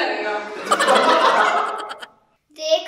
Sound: laughing

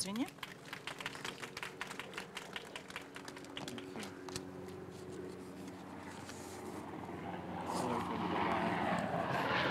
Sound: applause; sound of airplane

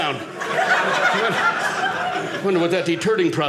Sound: audience laughing

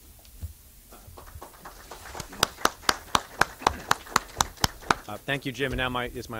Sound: clapping

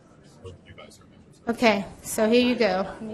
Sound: voiceover

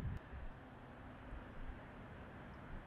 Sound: wind

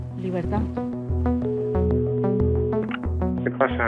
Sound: dial tone

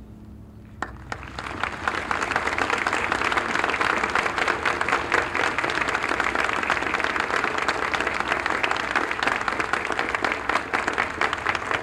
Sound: applause

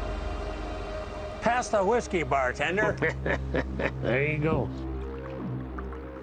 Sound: laughing

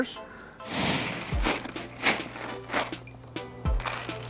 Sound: peanuts rattle

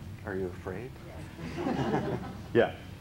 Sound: laughs

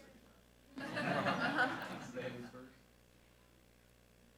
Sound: group laughing

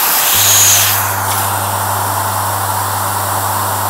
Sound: deep humming

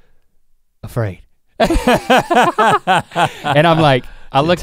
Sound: both laugh

